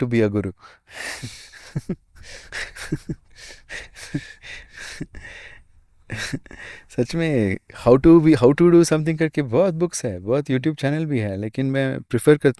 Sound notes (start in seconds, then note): 1.1 laughter